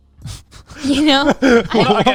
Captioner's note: all laughing